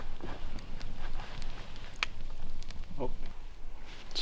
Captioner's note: flames crackling